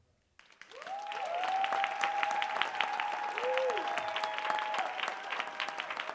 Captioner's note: audience cheering and applauding